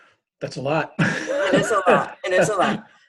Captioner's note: laughter